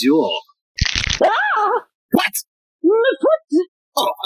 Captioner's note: sound of crunching bones